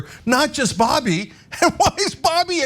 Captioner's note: laugh